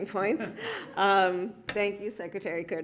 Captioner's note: laughter